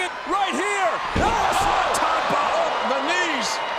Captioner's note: bodies thud